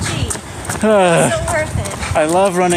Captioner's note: sighs in frustration